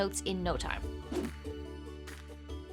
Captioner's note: air whooshing; lively music